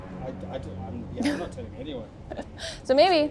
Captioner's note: dramatic music; chuckles